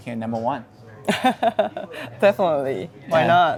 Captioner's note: laughing